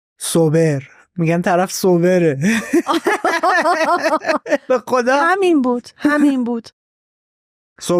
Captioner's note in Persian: خنده